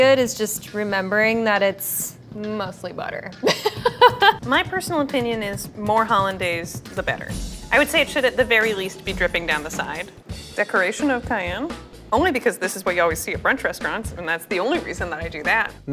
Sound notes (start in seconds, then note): 3.4 laughing